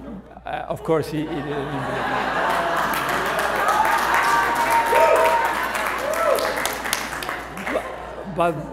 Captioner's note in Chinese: 歡呼聲